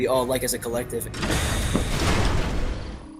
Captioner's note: door opens; hits pavement